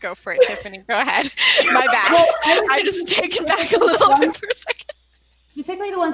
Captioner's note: laughing